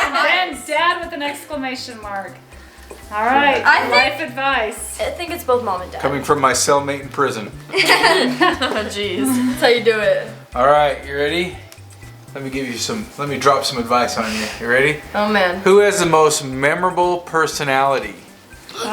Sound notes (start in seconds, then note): 0.0 kids laughing; 7.7 girls laugh